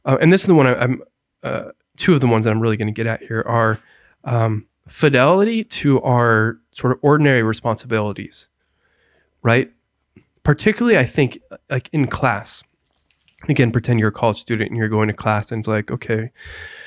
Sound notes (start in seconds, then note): none